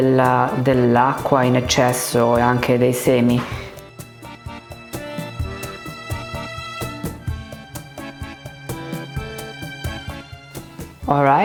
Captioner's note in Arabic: يتحدث الإيطالية